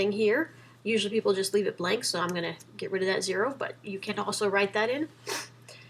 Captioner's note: sniffles